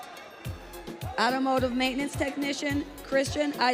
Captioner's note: audience cheering